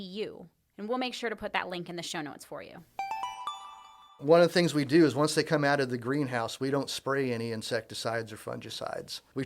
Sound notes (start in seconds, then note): 3.0 chime